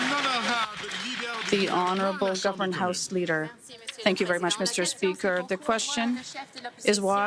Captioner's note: some Applause